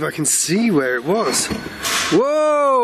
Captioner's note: crashing